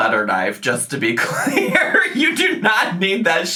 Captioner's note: laughs